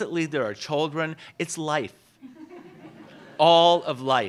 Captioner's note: laughs